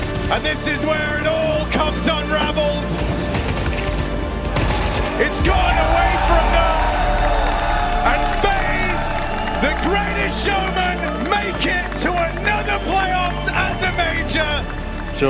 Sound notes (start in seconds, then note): 3.0 gun firing; 7.1 crowd cheering